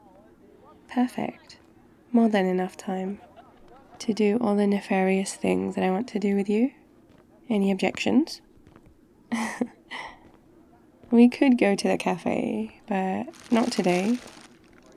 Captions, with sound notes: perfect, more than enough time *footsteps* to do all the nefarious things that I want to do with you any objections? *laughs* we could go to the cafe but not today *rustling bags*